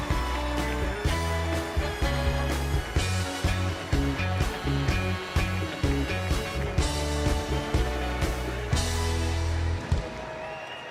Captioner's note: applause